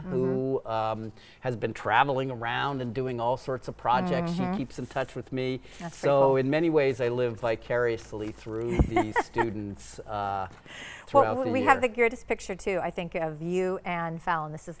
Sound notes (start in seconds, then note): 8.7 laughing